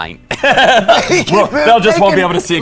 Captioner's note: laughing